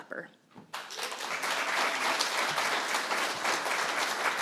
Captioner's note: applause